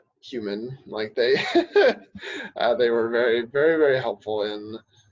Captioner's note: laughing